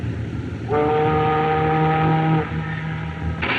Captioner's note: ship's Horn Blows